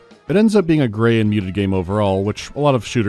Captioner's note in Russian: none